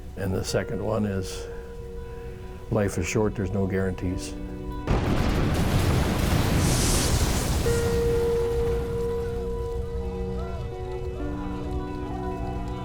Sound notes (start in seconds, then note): 4.8 explosive bang; 9.9 men screaming